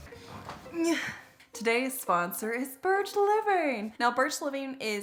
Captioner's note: groans